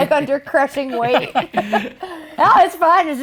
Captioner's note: laughing